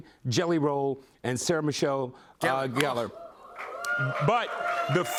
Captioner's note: cheering